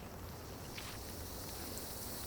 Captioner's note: hisssssss